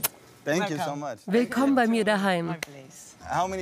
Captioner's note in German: englisch